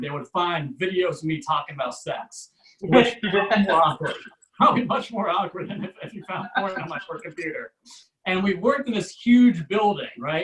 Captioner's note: audience Laughs